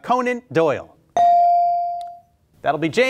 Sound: beep

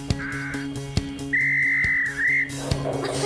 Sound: whistle Blows; laughing

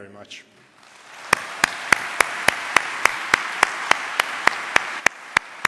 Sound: applause

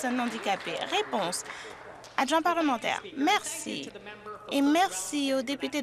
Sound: some Applause

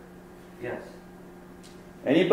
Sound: voiceover

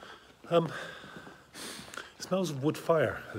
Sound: sniffs

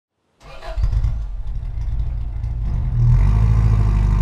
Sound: car engine

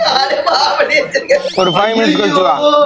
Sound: laughs

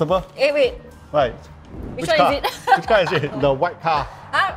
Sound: laughs

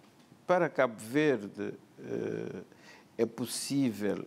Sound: speaking portuguese

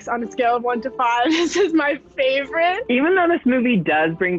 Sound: chuckles

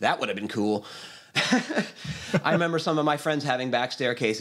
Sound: laughs

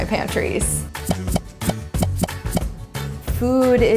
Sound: popping

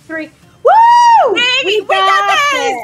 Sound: overlapping cheering and yelling

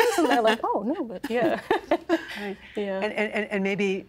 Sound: laughing

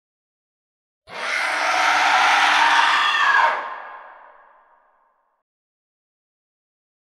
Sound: demonic woman scream

